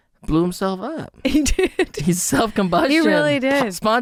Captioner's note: laughing